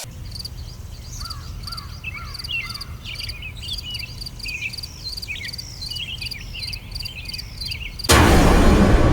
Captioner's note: nature Sounds; dramatic Rusty Impact